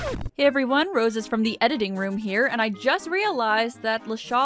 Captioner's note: record scratch